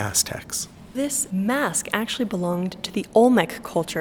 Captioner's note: voiceover